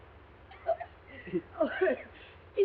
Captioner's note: Mrs. Hudson coughing